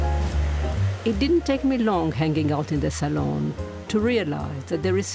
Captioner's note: voice-over